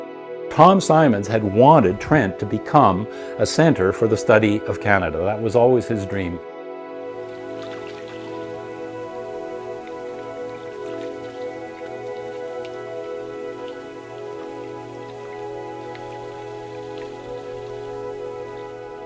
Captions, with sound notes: Tom Symons had wanted Trent to become a center for the study of Canada. That was always his dream. [water lapping]